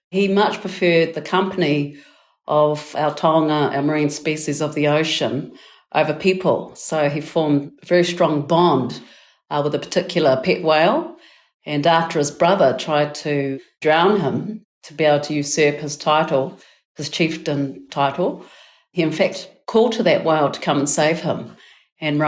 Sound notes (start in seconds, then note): 3.2 speaking in foreign language